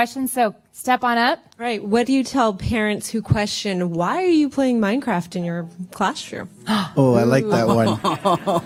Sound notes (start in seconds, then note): 6.5 gasps, laughter